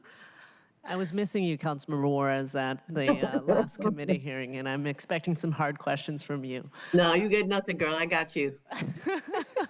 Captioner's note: laughter